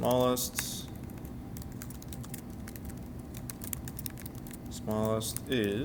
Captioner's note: sounds of Typing